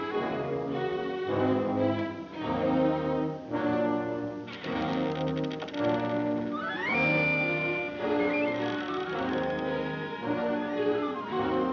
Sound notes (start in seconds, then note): 4.5 door creaking